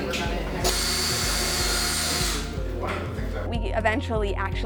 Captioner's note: drill whines